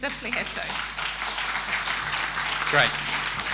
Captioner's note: applause